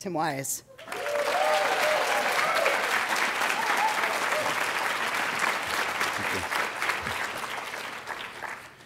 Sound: clapping

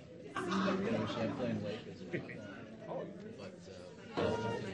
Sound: speaking faintly

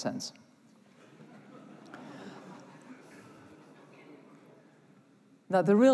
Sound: laughter

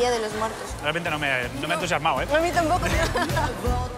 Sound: laughs

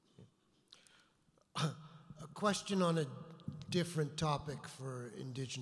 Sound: voiceover

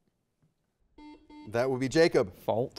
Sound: buzzer beeping

